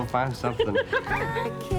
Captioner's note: laughing